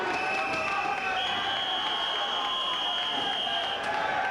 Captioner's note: spectators cheering and applauding; whistling